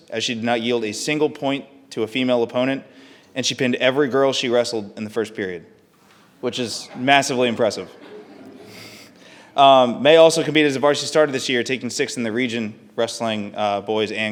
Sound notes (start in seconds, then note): 6.6 audience laughing softly; 6.7 chuckles